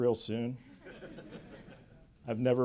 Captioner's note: laughter